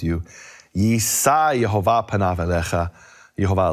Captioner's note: speaking foreign language